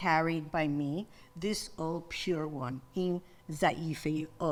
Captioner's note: speaks in foreign language